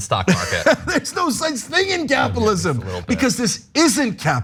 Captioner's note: laugh